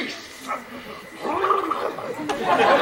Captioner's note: Dogberry flubbers